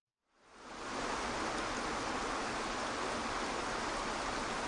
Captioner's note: waterfall crashing